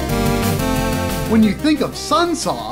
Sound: game audio

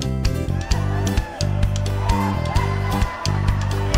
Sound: cheering

